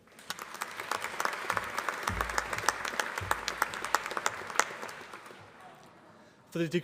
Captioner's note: applause